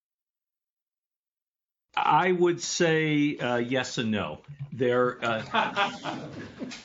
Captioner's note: laughter